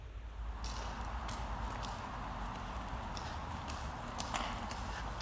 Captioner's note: footsteps crunching